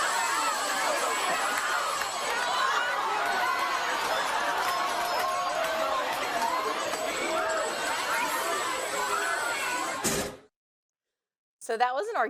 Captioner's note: applause